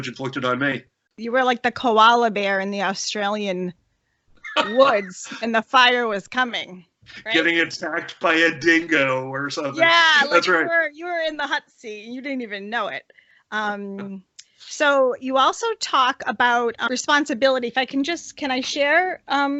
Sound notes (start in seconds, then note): 9.8 laughter